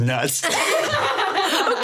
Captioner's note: everyone laughing